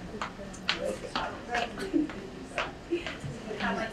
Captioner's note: speaking away from mic